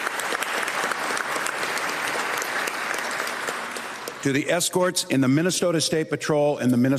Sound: applause

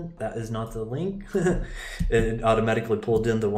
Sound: laughing

